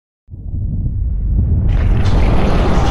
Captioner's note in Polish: dźwięk wybuchu